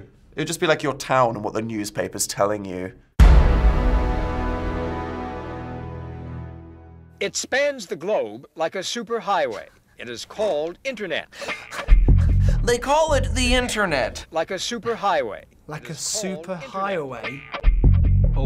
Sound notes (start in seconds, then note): 3.2 dramatic chord; 11.7 funk music; 12.6 nasally; 17.2 funk music